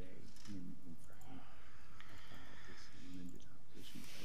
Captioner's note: quietly talking